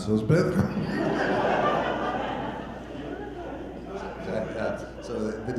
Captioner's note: audience laughter